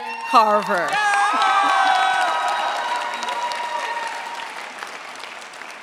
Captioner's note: cheers, applause